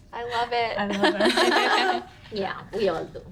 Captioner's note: women giggle; women laugh